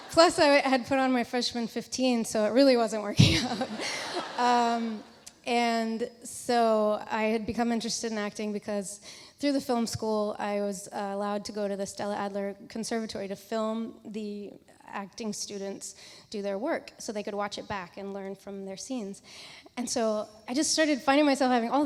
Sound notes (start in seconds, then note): 3.4 audience laughs